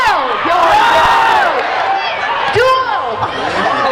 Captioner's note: crowd cheering